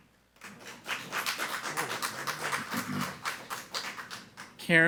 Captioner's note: people clapping